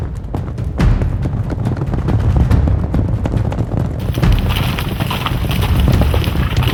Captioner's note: suspenseful music; hooves thunder